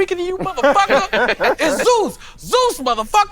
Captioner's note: all laughing